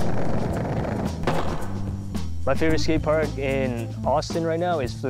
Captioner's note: upbeat music; skate cracking